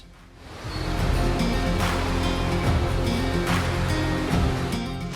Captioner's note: rushing water